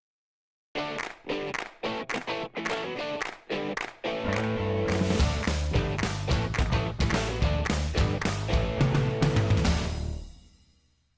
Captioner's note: claps